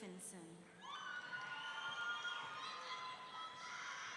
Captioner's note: audience cheering